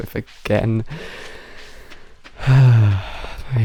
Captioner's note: deep inhale; big sigh